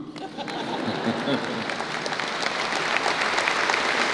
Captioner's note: applause